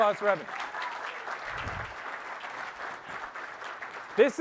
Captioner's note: applause